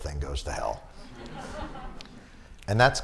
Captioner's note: laughter